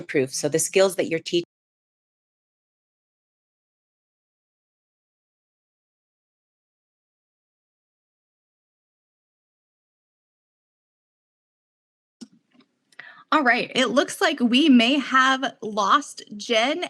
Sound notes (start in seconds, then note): 5.0 audio fades off